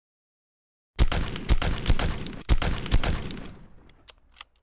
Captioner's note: gunshots